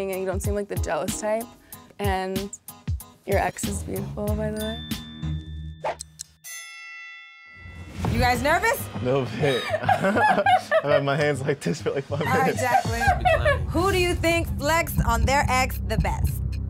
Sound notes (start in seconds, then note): 6.0 clock ticks; 6.3 bell rings; 9.4 laughs